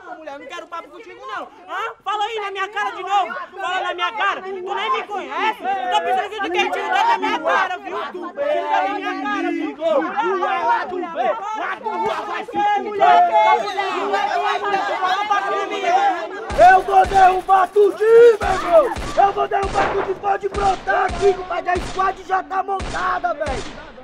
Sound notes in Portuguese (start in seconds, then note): 13.7 gritaria